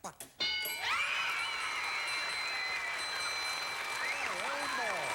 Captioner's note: audience applauding